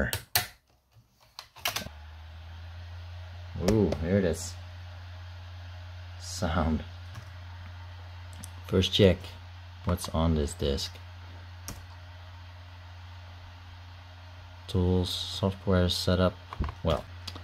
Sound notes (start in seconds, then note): 3.6 CD player noise